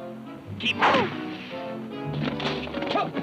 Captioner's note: arrow thunks; exciting music